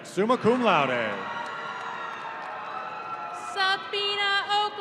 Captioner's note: audience cheering